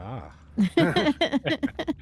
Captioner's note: laughing